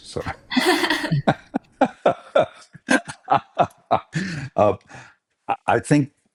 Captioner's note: multiple people chuckle